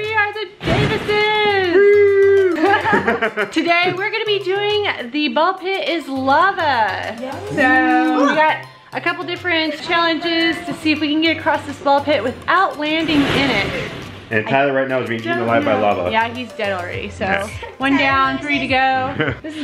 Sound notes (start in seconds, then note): 1.7 laughs